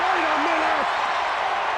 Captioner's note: crowd cheering